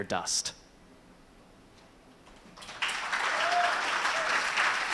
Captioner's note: ^applause^